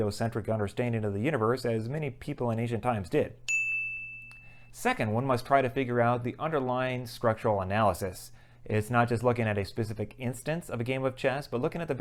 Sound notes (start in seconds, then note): 3.4 chime